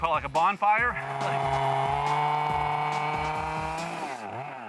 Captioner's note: chainsaw humming